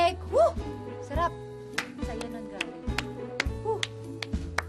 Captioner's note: leah clapping; clapping